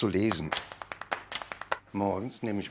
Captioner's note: hectic applause